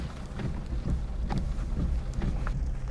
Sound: rain drizzling; window wipers swishing; suspensful music

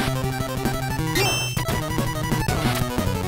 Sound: game audio

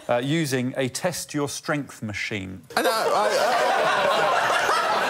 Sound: laughter

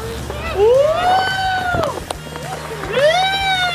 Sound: whooping

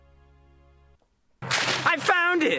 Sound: paper rips

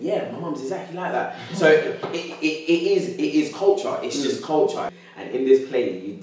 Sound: laughing

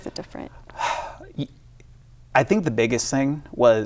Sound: sighs heavily

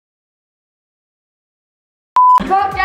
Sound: beep

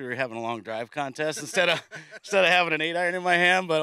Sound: laughing

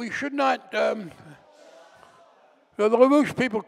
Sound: audience grumbling

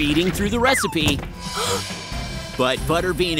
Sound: gasping

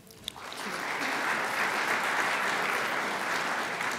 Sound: crowd applauds

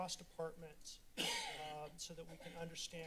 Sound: coughs

